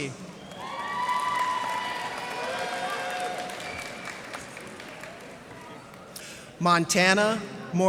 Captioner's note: cheers and applause